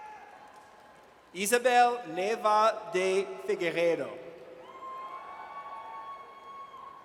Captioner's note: audience cheers